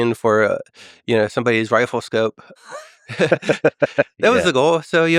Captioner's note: Tim and Lex laughing